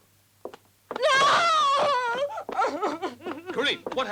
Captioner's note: sobs